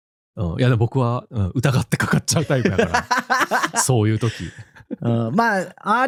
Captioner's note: laughs